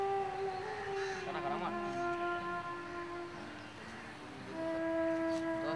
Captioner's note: Indian spoken audio